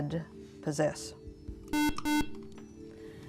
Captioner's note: buzzer